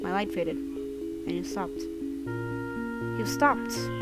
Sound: none

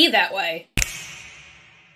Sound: bfb_snap_sound_effect.mp3

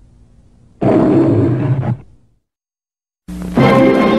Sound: Leo the Lion roaring

